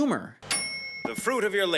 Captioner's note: microwave dings